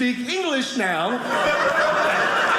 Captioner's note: audience laughing